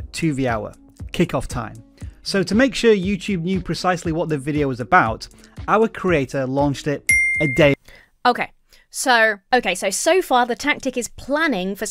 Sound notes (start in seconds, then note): 7.1 bell dings